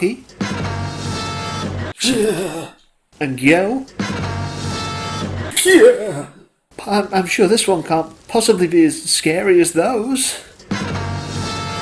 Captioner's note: yells